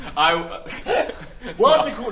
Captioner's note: nervous laughter